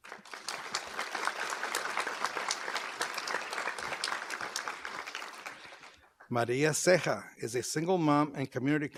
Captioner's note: applause